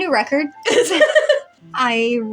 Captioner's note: chuckle; laugh